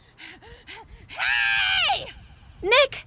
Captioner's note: yelling in the distance